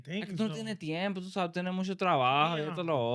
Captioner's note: speaking In Foreign Language